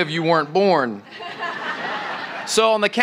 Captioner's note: laughter